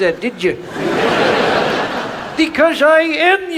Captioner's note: audience laughs